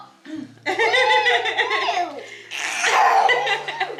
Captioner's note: everyone laughs